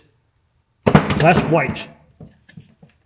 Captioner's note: tool thudding